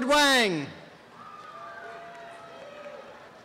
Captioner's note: applause